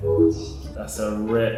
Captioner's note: phone chimes